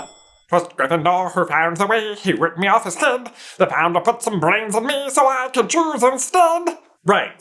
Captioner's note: Sorting Hat sounding like Stitch